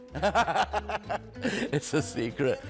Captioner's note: laughing